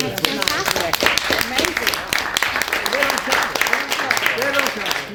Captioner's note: applause